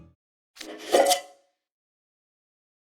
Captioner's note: opening noise